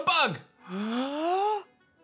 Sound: gasps

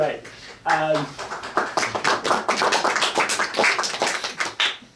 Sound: audience applauding

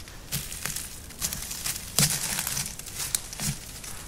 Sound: brush snapping

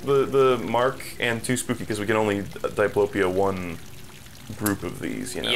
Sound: none

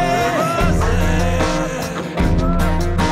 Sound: fuzzy

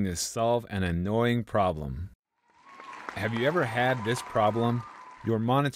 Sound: clapping

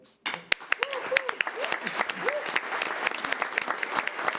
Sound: audience clapping

